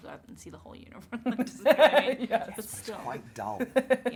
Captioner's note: Nikki laughs